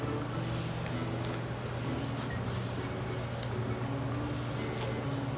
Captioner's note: ingredients mixing